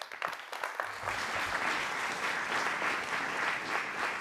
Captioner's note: applause